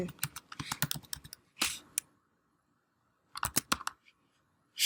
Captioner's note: keys clicking